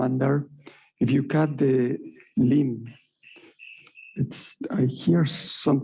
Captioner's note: alarm chiming